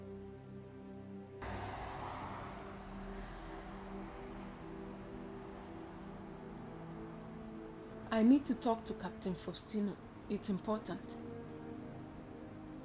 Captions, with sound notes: (traffic noise) - I need to talk to Captain Faustino, it's important.